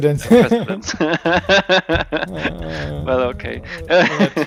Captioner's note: both laughing